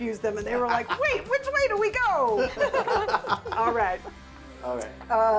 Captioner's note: laughing